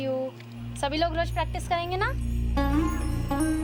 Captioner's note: speaking Hindi